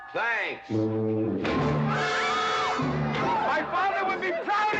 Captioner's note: Katherine screaming